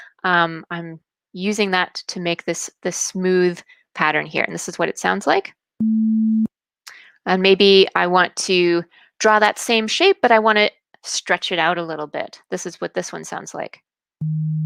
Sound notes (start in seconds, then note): 5.8 beep; 14.2 deep beep